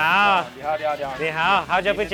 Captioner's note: speaks in a foreign language; chef speaks in a foreign language; speaks in a foreign language